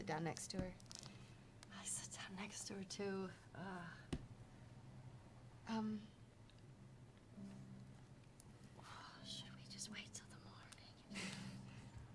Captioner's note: whispers